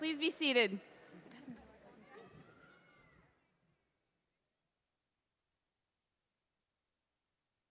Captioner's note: audience chattering